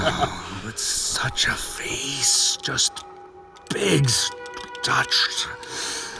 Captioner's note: laughing; purring